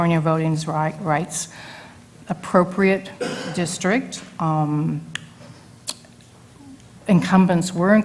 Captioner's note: cough